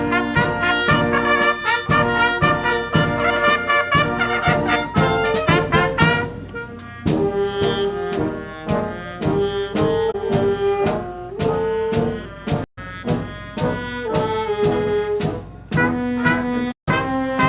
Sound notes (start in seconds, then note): none